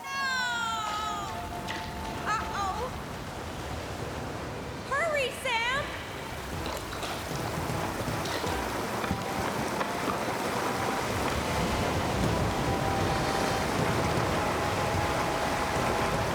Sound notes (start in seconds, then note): 3.5 water Rushing; 8.7 water Rushing